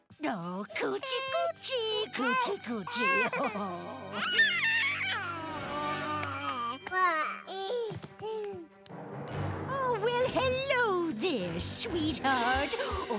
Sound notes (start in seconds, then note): 4.2 babbling